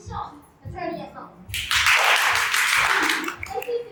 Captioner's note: clapping